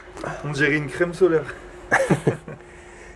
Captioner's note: laughs